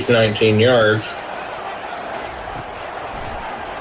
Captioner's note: crowd Noises